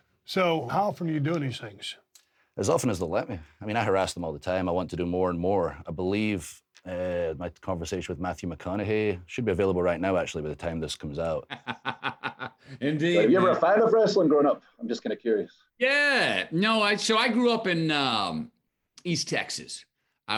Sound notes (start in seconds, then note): 11.4 laughs